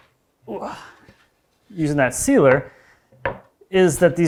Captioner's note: grunts softly